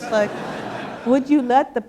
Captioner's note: laughter